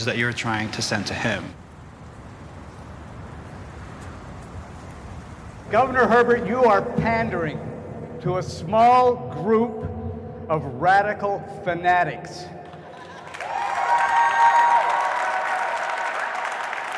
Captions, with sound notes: that you're trying to send to him. Governor Herbert you are pandering to a small group of radical fanatics. [cheering]